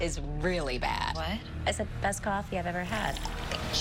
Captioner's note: slurps